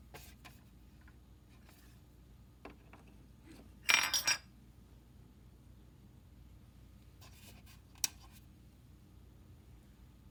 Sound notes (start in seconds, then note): 3.9 More falling Zippo parts